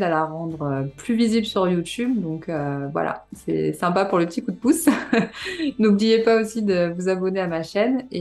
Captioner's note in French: rires